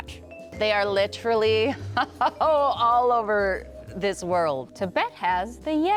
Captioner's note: laughing